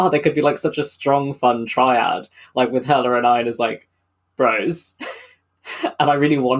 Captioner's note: laughs